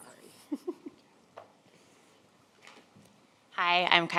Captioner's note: laughs